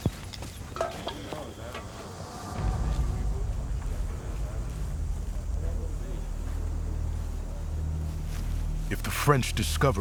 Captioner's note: chattering